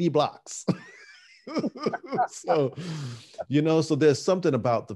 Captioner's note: laughing